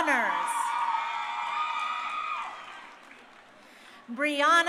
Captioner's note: crowd cheering